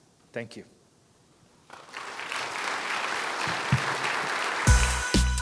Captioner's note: applause